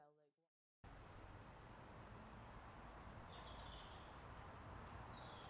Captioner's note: birds and traffic